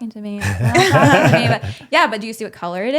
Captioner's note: both laughing